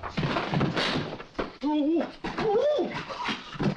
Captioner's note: men grunting